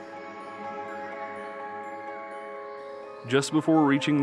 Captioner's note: birds chirping